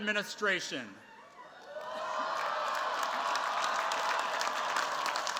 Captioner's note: cheers, applause